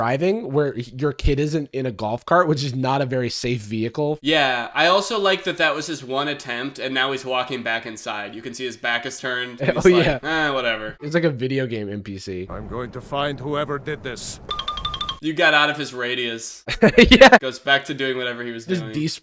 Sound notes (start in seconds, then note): 14.0 Mr Krabs walk sound effect; 16.7 laughs